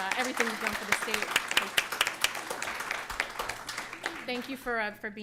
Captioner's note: applause